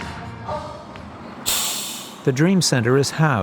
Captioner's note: brakes hiss